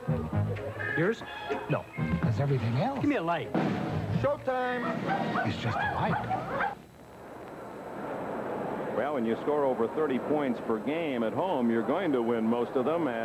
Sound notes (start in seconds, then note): 4.6 first patron, as drumroll and barks are heard